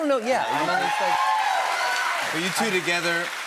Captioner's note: cheers and applause